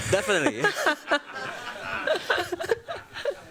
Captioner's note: laughs